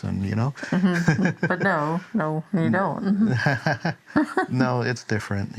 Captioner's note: laughter